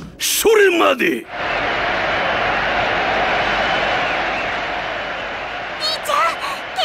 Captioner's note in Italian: grida di eccitazione